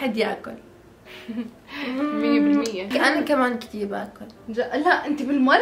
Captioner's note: chuckles